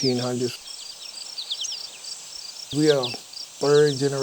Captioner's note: bugs and birds chirping